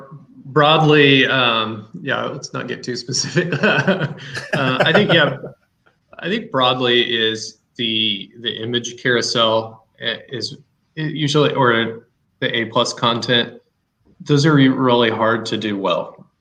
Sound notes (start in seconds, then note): 3.2 laughs